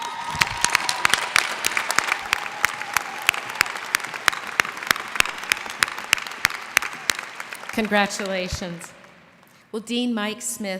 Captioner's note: cheers and applause